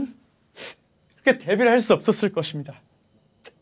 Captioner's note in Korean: 훌쩍